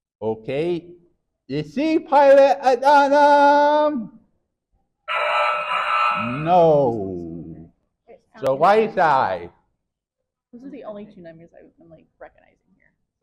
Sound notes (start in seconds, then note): 5.1 error sound effect